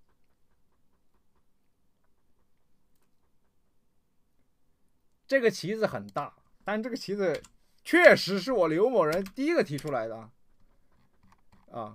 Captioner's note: dog